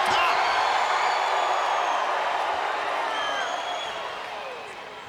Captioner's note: audience cheering